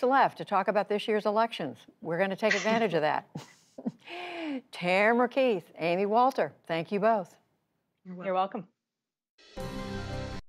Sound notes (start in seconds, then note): 3.3 laughter